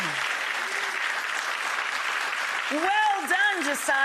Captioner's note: audience applauding